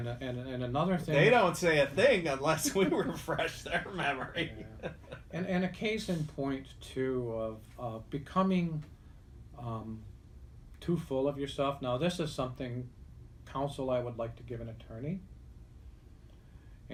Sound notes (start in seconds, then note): 2.6 laughs